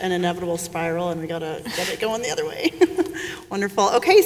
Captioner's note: chuckling